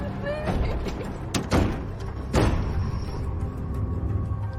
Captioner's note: sobbing; pounding